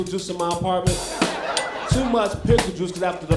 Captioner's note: crowd laughing